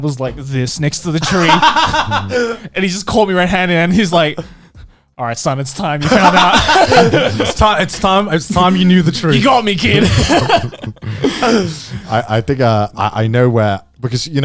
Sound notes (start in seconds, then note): 3.0 laughing; 8.2 chuckling; 12.2 chuckling